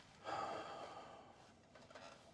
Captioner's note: sighs